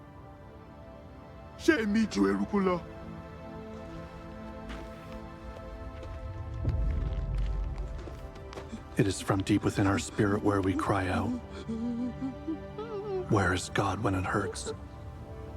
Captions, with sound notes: It is from deep within our spirit where we cry out. ( sobbing ) Where is God when it hurts?